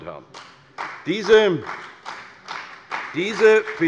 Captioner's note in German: Beifall bei der CDU und dem BÜNDNIS 90/DIE GRÜNEN